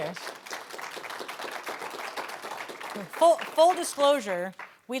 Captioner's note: audience applauding